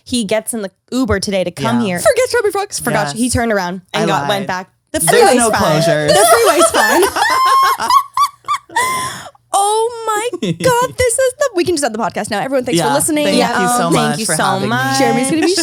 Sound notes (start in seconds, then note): 6.1 all laugh